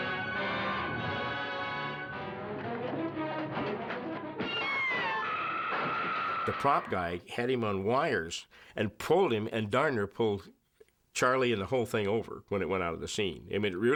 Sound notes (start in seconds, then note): 4.4 Martian screams